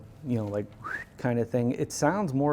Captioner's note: whistles